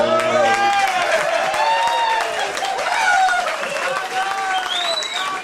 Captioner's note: crowd clapping and cheering